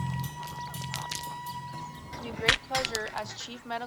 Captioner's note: radio plays